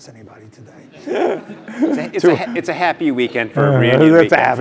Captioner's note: laugh